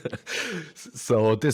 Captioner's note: laughs